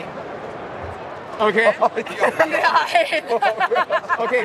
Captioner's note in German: lacht